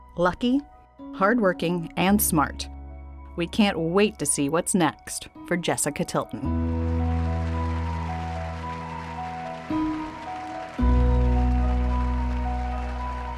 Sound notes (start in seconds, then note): 6.6 audience cheering; 6.7 hopeful music